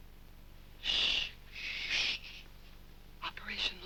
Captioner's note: shh-ing each other